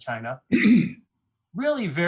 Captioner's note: clears throat